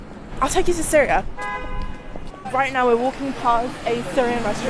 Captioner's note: horn honking